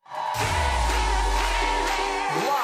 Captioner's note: audience cheering